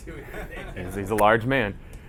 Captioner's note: laughing